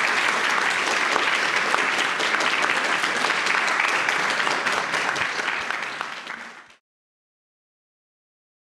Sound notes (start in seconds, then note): 5.1 applause